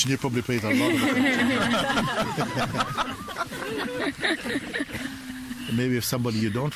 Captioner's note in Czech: smích